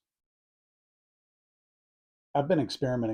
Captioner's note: pause